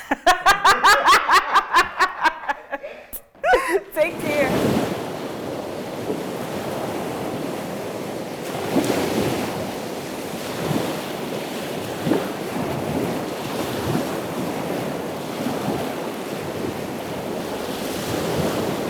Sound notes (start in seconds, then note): 0.0 laughing; 4.8 waves splashing